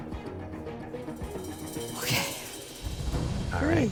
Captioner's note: sighing